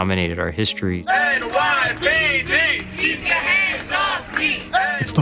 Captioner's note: crowd